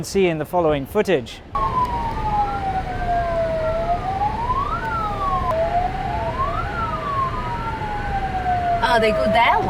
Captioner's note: siren alarm